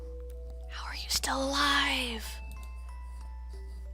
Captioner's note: whispering